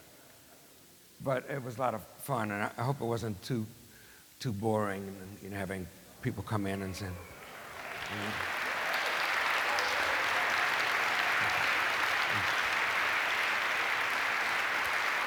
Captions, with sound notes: But it was a lot of fun and I hope it wasn't too boring and having people come in and say-- [APPLAUSE] Thank you.